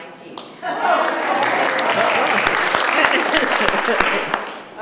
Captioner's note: laughter and applause